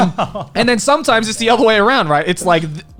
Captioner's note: laughs